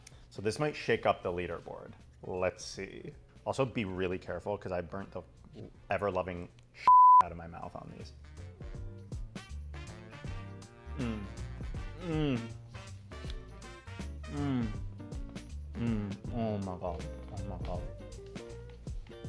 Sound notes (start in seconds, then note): 6.8 beep; 9.3 upbeat music